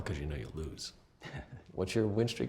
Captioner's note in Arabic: ضحكة مكتومة